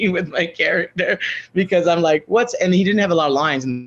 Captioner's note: laughs